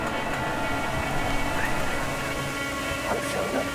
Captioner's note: whispers